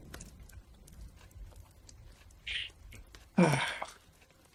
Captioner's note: thunder rumbles; rain pattering